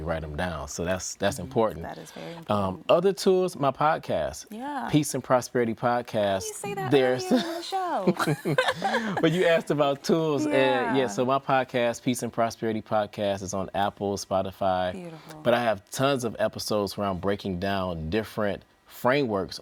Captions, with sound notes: likely to reach the goals when we write them down. So that's important. - That is very important. - Other tools, my podcast, Peace and Prosperity Podcast. - How do you say that at the end of the show? (laughing) - Well you asked about tools. Yeah, so my podcast, Peace and Prosperity Podcast is on Apple, Spotify. But I have tons of episodes where I'm breaking down